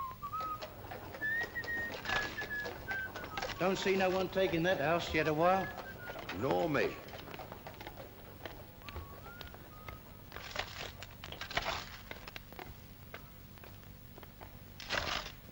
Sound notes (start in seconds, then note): 0.0 man whistles; 0.2 hooves trotting; 8.4 man whistles faintly; 10.2 sound of shoveling